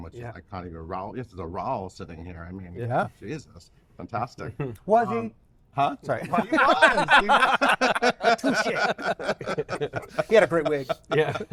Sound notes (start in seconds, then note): 6.1 all laughing; 6.2 laughs